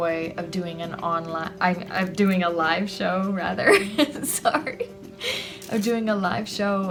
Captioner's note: laughs